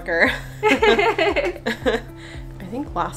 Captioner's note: both and the girl laugh